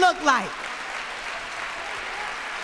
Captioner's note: applause